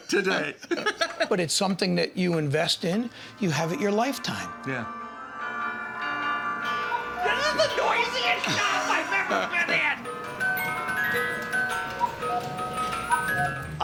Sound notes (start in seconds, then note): 4.7 clocks all chiming; 10.4 chiming clocks